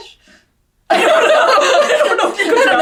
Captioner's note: both laughing